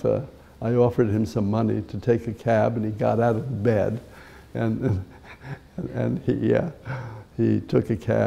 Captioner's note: chuckle